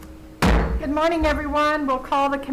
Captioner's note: gavel bangs